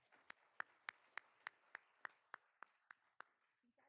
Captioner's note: all applauding